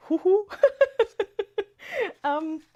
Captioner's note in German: gelächter